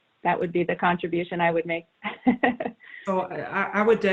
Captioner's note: laughs